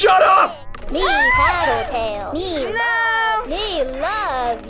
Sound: screams

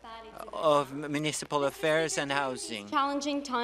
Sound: speaking French

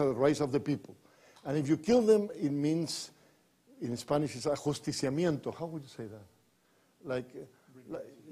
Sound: foreign language

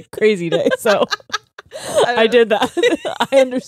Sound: both laughing

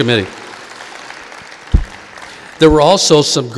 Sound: audience applauding

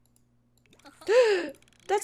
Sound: gasps

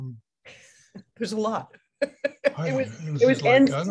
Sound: laughs

